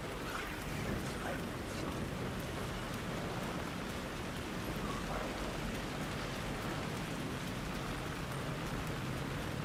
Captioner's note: wind blowing